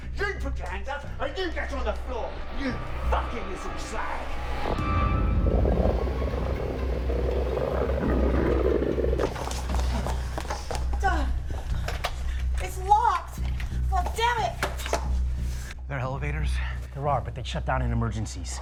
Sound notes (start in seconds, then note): 5.4 creature roaring